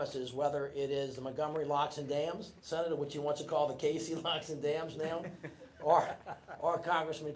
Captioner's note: laughter